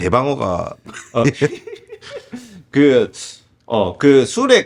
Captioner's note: laughs